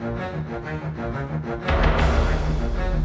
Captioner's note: none